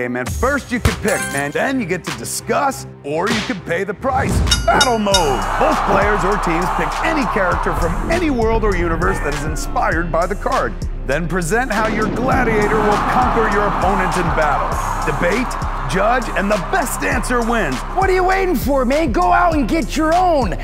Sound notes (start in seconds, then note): 4.4 bell dings; 4.4 crowd cheers